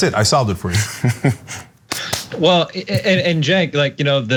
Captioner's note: laugh